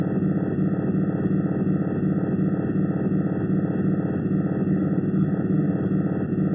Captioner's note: strange pulsing sound